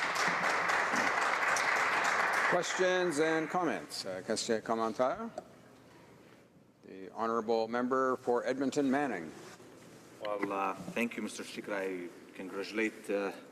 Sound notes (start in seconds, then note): 0.0 applause